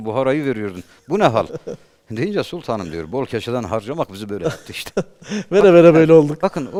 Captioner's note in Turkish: kahkaha